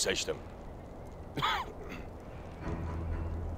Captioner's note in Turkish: Öksürük sesi